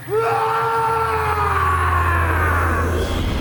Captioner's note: eerie whispering; Cain yells